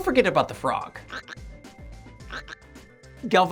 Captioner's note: frog Noise